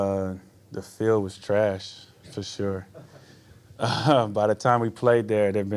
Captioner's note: laughs